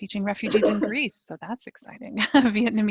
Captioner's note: chuckling